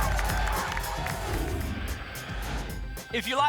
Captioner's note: whoosh